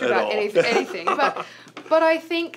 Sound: laughs

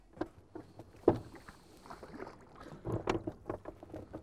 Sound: water lapping

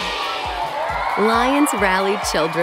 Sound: cheering

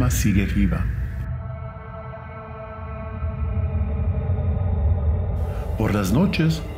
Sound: spooky soundscape

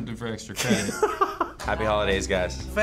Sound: laughs

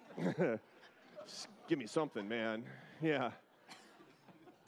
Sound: laughter

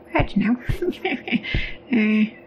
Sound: chuckles

